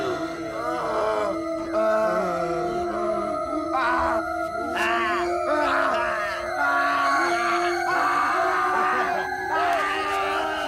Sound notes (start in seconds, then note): 1.0 moans; 5.5 screams repeatedly